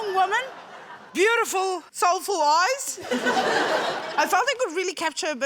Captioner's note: laughter